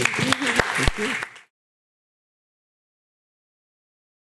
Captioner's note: audience clapping